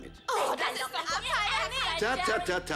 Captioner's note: angry chatter